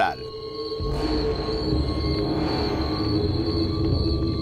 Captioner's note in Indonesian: suara jangkrik